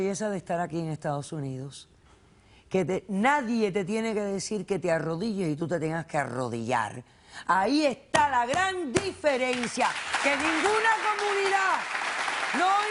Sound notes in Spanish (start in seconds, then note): 7.6 Manotazos; 9.4 Aplausos